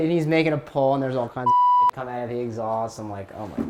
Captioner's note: beep